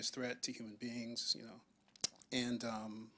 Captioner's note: none